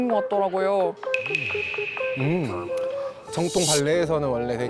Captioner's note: surprised by cultural differences sound effect